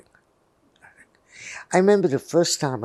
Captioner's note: whispering